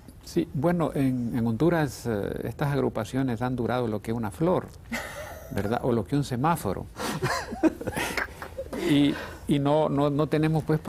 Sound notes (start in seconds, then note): 7.0 ríen; 8.8 risas